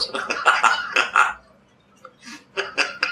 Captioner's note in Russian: Григорий смеётся